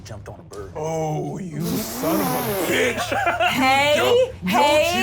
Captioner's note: laughs